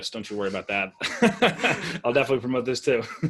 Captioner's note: laughing